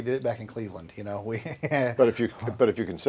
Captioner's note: chuckles